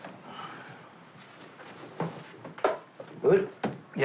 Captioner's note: grunts softly